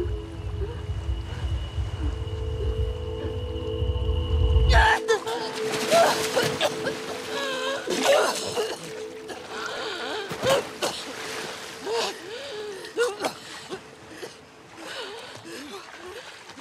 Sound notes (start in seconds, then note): 4.7 screams; 5.8 coughs; 6.7 gasps